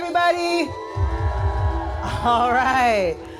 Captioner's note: crowd cheers